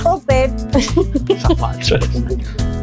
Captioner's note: laughter